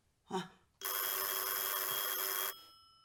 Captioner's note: the phone rings